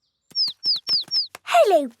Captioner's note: chirping